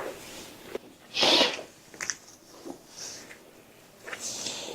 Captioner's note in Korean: 콧방귀